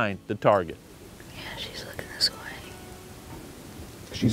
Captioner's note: whispering